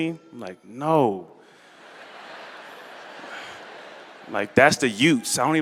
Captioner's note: laughter